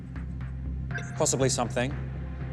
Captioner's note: radar bleeping